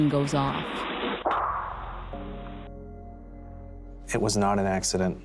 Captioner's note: gunshot